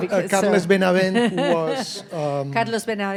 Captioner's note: laughing